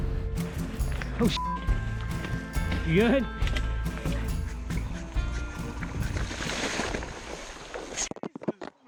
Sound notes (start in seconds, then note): 1.2 beep; 5.7 splash